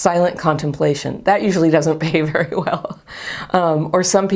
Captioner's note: chuckles